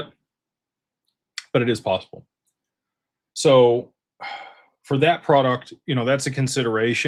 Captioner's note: sighs